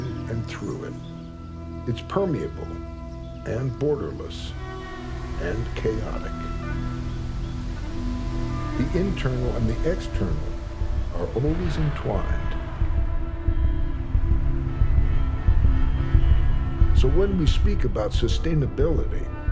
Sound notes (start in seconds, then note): 13.8 horns honk; 13.8 traffic hums